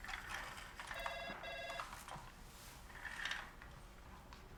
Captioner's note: phone ringing